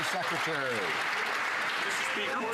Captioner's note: some Applause